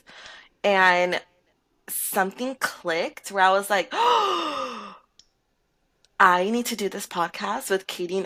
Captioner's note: deep breath